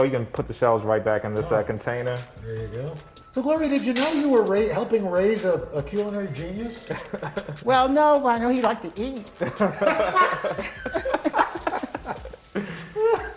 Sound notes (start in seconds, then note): 9.4 laughter